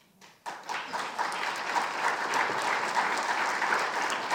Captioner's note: audience applauding